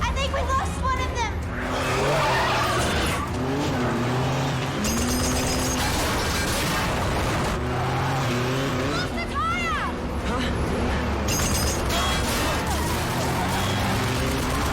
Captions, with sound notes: I think we lost one of them! (GUNFIRE) We lost a tire! - Huh? - (BULLETS RICOCHET)